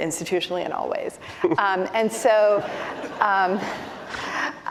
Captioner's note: laughter